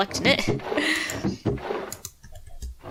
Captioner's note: dry inhale laugh